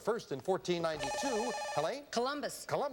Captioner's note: buzzer